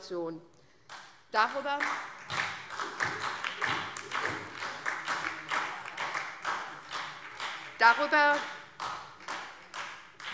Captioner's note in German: Beifall SPD und DIE LINKE